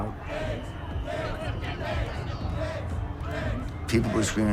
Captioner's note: chanting